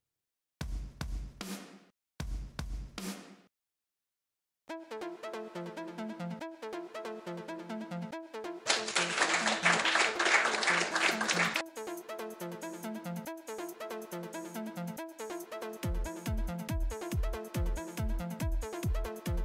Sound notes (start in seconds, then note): 8.6 applause